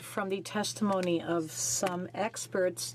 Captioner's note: speaking French